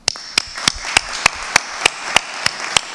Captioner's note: applause